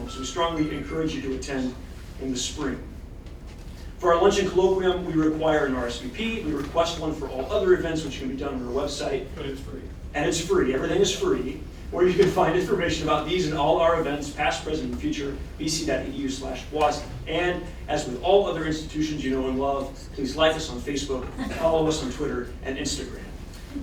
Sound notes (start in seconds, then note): 21.2 laughter